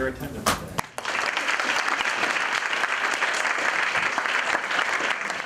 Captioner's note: applause